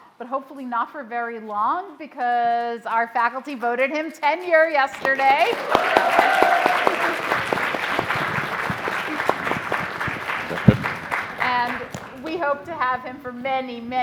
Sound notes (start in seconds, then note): 4.5 audience applauding